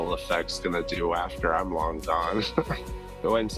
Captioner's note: laughs